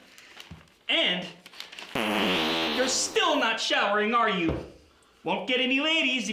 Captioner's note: farting sound from cheese can